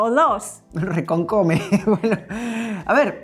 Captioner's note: laughs